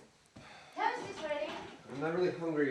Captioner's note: sighs